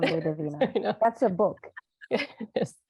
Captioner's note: laughing